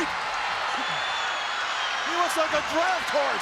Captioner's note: audience cheers